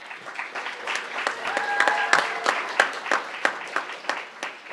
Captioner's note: crowd applauding